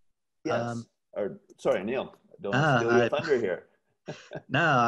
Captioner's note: laugh